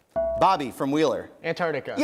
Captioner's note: bell rings